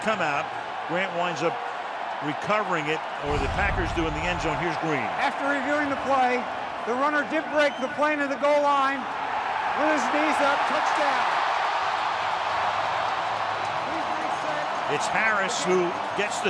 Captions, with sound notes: After reviewing the play, the runner did break the plane of the goal line with his knee. So a touchdown. [crowd cheering] It's Harris who gets the touchdown. So Harris with the ball crossing the goal line.